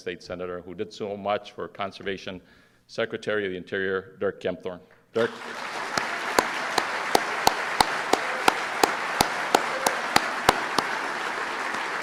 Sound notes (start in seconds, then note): 9.9 applause